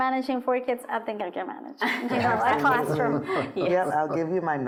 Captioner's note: laughing